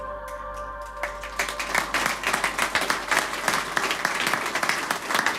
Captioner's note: applause